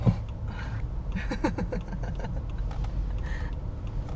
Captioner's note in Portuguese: risos